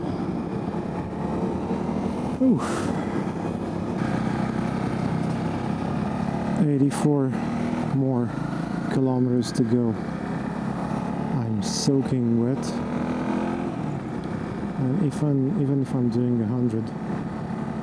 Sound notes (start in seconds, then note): 2.3 sighs